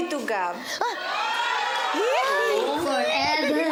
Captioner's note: all gushing